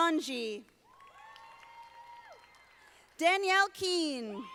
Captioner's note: audience applauding